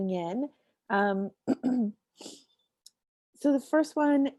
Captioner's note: clears throat